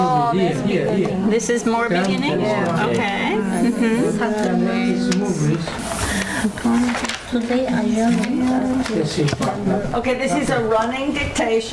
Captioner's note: students talking